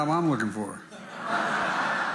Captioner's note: laughter